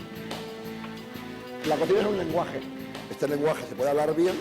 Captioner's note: speaking spanish